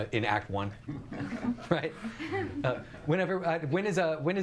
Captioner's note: audience chuckles